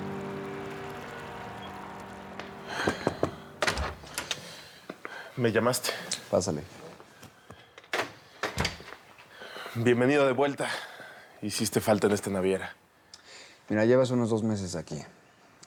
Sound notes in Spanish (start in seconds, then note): 2.8 toques en la puerta; 4.3 ruido al abrir la puerta